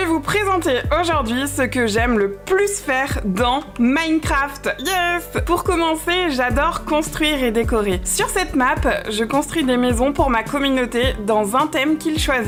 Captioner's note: speaking in french